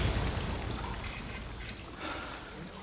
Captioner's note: sighs